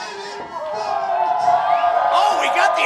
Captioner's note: crowd cheers